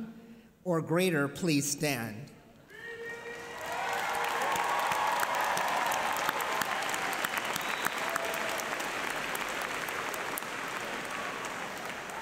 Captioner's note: applause